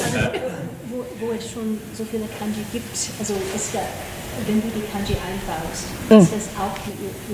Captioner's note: people laughing; panelists speaking in foreign language